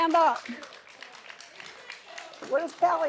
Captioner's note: applause